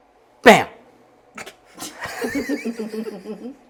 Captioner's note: laughter